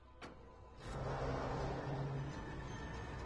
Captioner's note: metal creaking